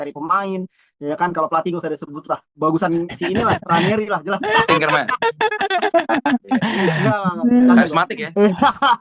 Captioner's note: laughs